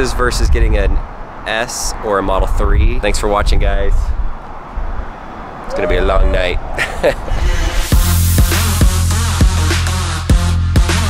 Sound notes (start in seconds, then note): 5.8 man laughing; 7.5 upbeat music